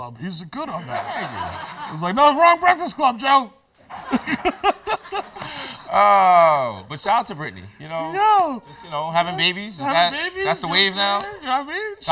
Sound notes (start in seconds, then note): 5.6 laughs